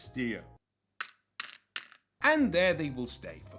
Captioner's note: meeples clacking